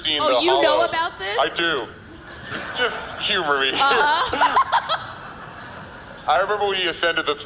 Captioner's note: laughing